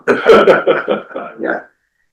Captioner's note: laughing